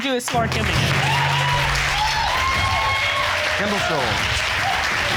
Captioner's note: audience cheers